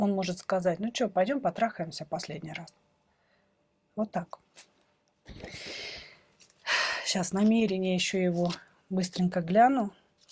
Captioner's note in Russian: вздыхает